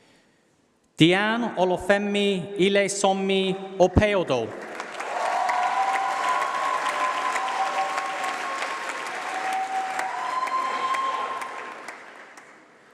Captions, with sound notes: Deanne Olufemi Ilesanmi Opeodu. [Applause]. Valerie Owusu.